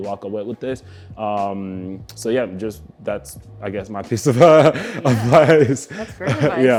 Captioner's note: laughs